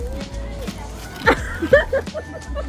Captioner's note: laughs